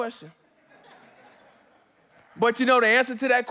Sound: congregants laughing

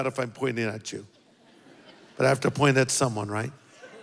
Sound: congregation laughs

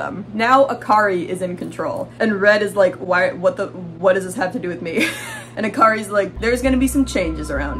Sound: stuttering

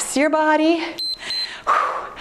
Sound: timer beeps

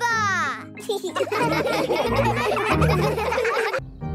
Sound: laughing

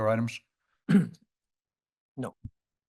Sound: clears throat

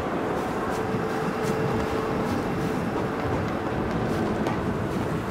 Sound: wind howling

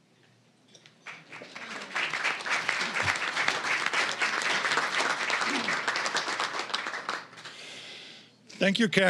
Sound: applause

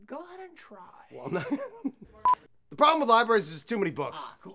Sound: laughs

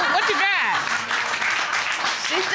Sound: audience applauds

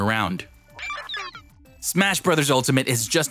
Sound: digital sounds

